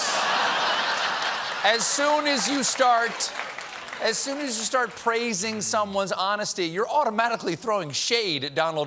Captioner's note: laughter